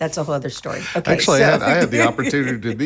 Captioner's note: laughing